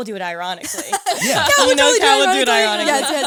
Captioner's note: all laughing